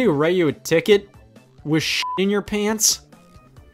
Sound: beep

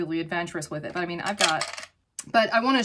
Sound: makeup brushes clanking

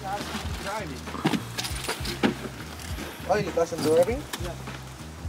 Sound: all chattering

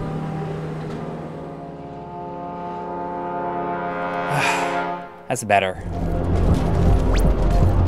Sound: game audio

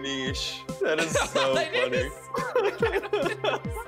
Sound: laughing

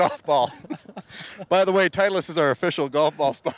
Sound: laughing

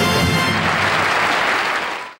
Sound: audience clapping

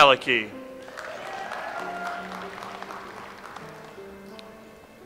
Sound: audience applauds

